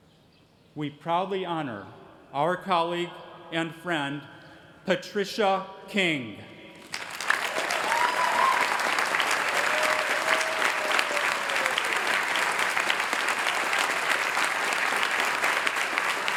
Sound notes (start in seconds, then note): 6.5 applause